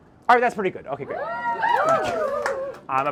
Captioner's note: cheers from audience